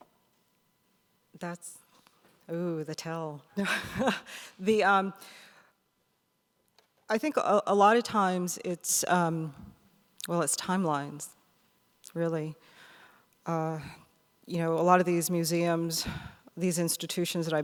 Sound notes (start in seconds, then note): 3.3 laughs